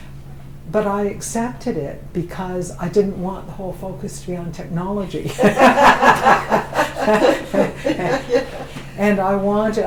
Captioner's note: laughter